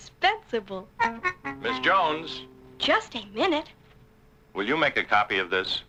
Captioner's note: man calling